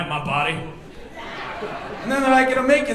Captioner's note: audience laughing